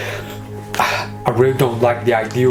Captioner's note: sighs